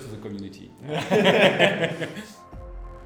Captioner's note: they laugh